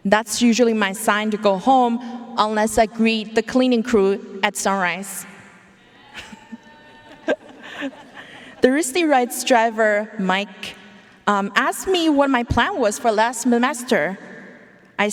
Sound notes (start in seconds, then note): 6.0 audience cheering; 6.0 laughing